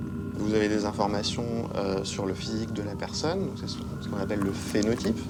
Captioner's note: speaking in foreign language